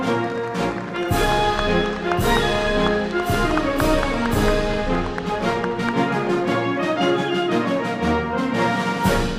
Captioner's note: applause